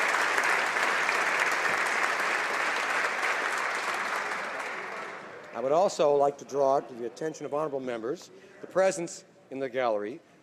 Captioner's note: applause